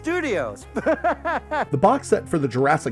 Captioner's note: laughs in cat